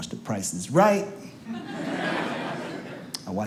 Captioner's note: audience laughs